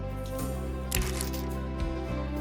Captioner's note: chain locks